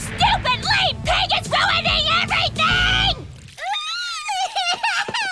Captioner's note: crying